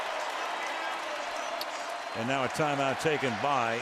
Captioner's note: pa announcement